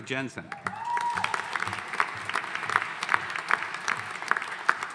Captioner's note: audience applauding